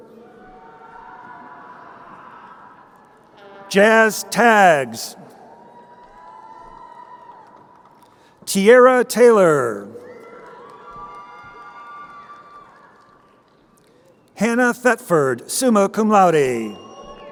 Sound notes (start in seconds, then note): 0.3 crowd cheering; 5.8 crowd cheering; 10.2 crowd cheering; 17.1 crowd cheering